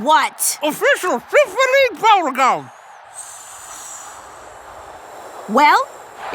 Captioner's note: blows